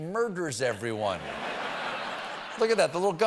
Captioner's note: laughter